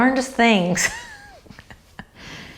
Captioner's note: laughs